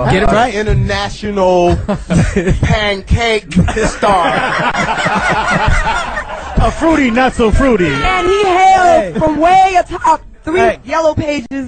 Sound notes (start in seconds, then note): 3.6 all laugh